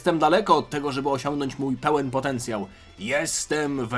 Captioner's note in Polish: none